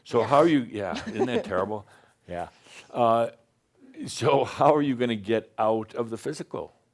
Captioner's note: she chuckles